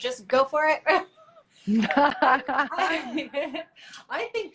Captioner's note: laughs